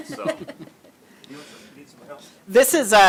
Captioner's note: laughter